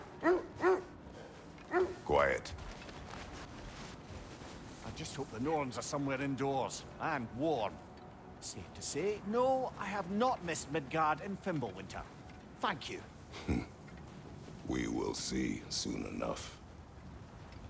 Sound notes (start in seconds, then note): 13.3 laugh